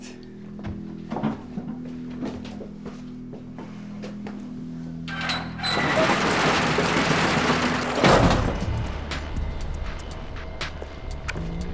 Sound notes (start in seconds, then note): 0.1 dramatic music; 5.1 door rattling; 8.9 ominous music